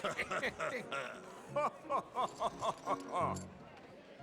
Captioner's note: laughs